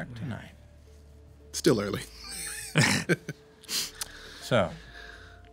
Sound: laughing

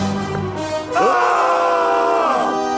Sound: screaming

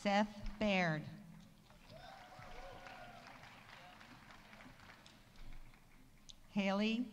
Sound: audience applauding; audience cheering

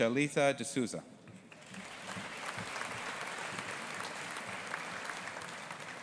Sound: audience applauding

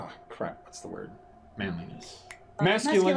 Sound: snapping fingers

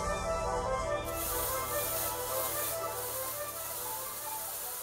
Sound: smoke machine hissing

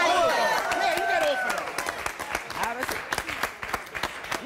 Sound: applause

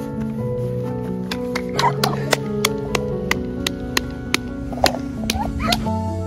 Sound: clapping

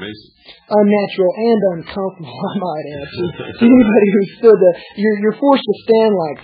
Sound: laughs

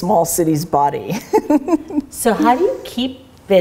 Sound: laughs

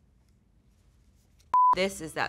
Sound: TV beeps

